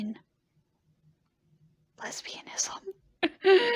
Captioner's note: whispering; laughing really hard